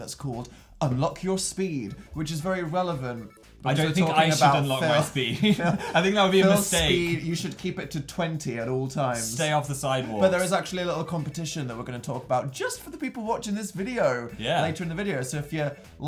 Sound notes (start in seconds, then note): 3.9 laughs; 4.2 chuckles